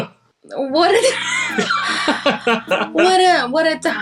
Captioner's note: laughing